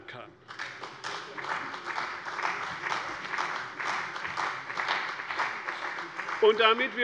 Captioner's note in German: Beifall bei der CDU und dem BÜNDNIS 90/DIE GRÜNEN